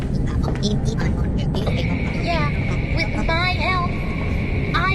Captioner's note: Helpi speaking gibberish; M2, using Gregory's voice